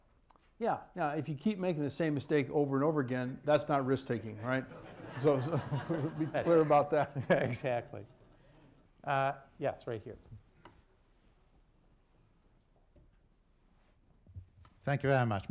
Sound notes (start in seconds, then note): 4.6 laughter